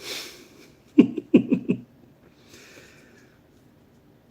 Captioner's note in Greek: γέλια